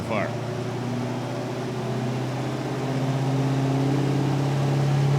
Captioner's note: engine revving